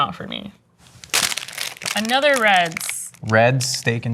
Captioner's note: wrapper crunching